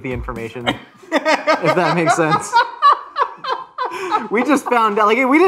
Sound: laughs

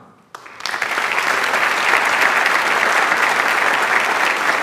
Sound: audience applauds

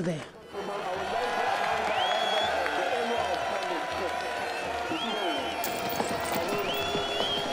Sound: crowd cheering; crowd applauding

